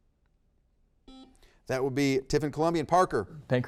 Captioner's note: buzzer beeps